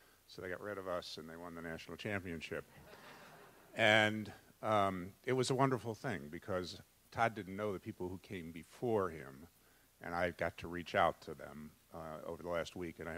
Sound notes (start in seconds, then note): 2.7 audience laughs